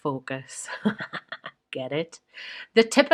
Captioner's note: laughs